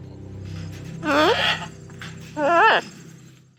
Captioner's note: parrot coos